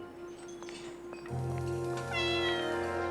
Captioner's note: cat meows